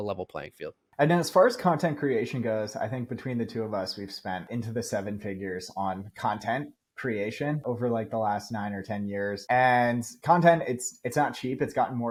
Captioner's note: speaking